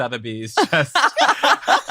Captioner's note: laughs